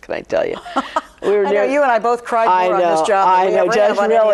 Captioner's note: laughs